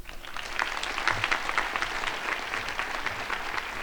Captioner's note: crowd applauding